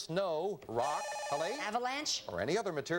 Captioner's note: buzzer